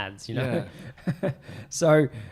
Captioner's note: laughs